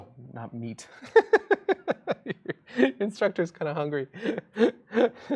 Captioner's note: laughs